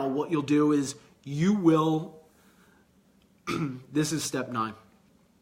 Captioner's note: clears throat